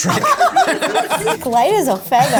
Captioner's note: all laugh